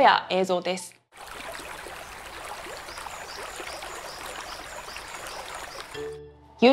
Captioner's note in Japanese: 川の水が流れる音